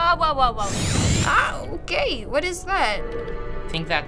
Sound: buzzing

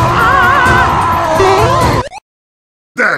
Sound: boing!

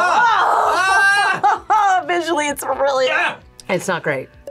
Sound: laughs

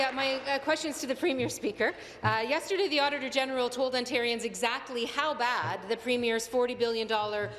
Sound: applause

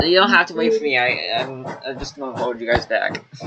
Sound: unintelligible Mill Noise

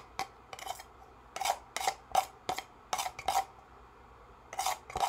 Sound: spoon scraping

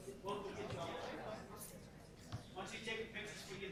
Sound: group chatter

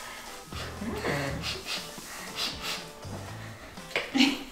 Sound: sniffing

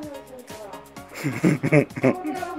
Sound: laugh

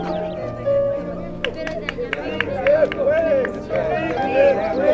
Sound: man applauding

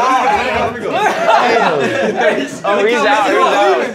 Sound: men laughing

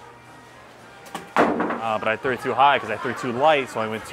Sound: block clattering

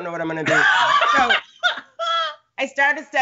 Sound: Brennan laughs

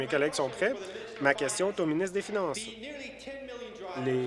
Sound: applause

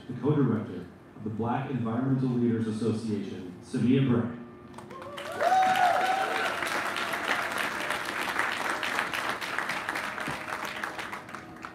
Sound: applause

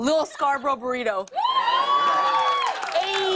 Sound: cheers and applause

